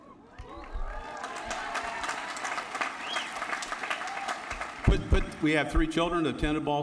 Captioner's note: applause